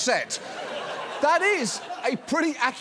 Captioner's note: audience laughing